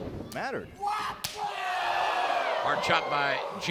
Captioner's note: crowd cheering